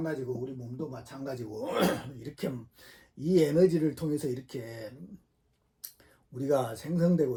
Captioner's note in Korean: 목을 가다듬음